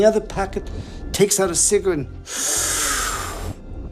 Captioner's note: sucks in air